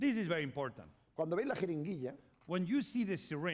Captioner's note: speaking spanish